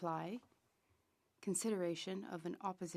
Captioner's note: speaking French